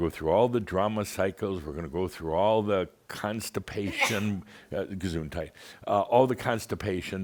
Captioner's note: sneezes